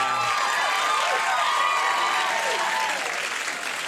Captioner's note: crowd cheers